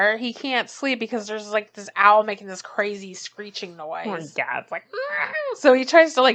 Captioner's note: makes screeching noise